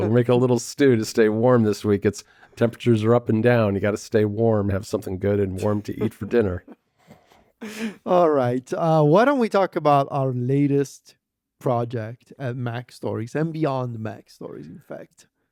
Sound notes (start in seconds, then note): 5.6 laughs